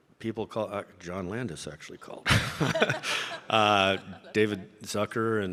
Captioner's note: laughs